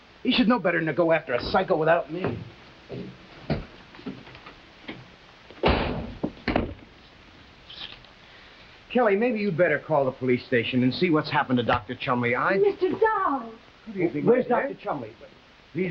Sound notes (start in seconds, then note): 5.6 door slamming